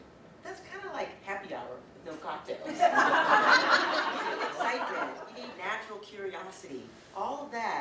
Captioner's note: audience: Laughter